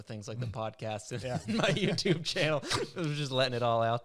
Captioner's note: laughs